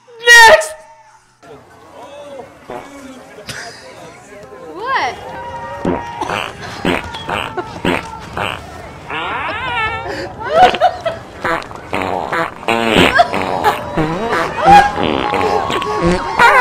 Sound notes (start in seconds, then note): 3.4 laughs; 9.2 both laugh